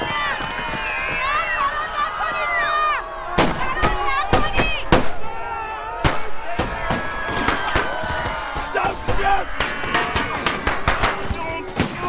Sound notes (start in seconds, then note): 3.3 gunshots